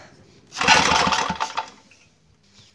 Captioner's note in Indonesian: bunyi mesin